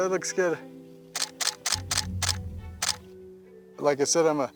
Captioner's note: camera clicking rapidly